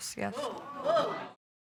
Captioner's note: audience exclaims